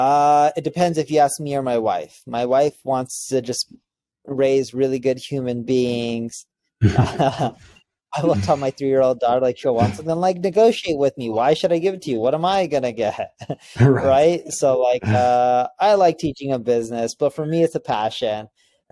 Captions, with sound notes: - It depends if you ask me or my wife. My wife wants to just raise really good human beings. (both laughing) I will tell my three-year old daughter, like she'll want something, like, "Negotiate with me. Why should I give it to you? What am I going to get?" So I like teaching her business, but for me it's a passion.